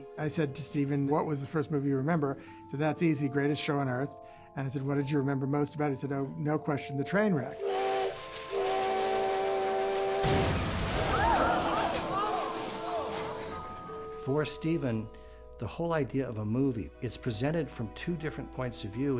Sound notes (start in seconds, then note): 7.5 train whistle blowing; 10.2 crashes; 10.2 audience gasps